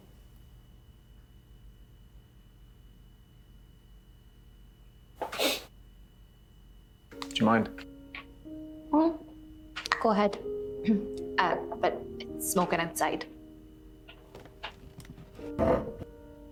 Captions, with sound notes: [Evan sniffs] Do you mind? Mhm, go ahead. Huh, but smoke it outside. [chair creaks]